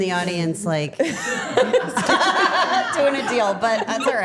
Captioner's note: everyone laughing